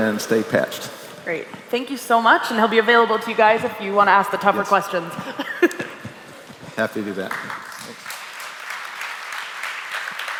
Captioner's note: applause